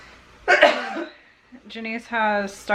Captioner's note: coughs